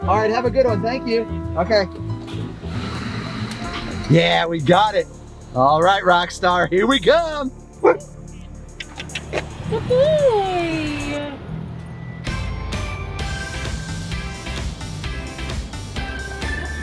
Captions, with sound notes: All right. Have a good one. Thank you. Okay. Yeah, we got it. All right, Rockstar. Here we go. (Rockstar barks) (upbeat music)